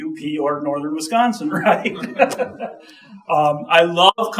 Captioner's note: chuckling